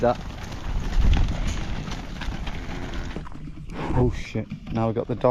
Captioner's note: hooves clopping